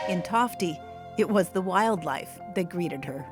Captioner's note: train whistle